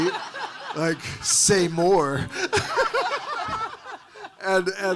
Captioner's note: all laughing